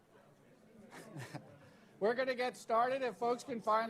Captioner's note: chuckles